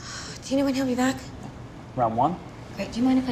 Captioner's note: sighs